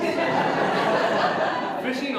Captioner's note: audience Laughter